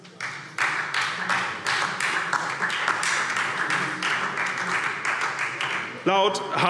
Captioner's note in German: Beifall SPD